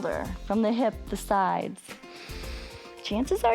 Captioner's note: inhales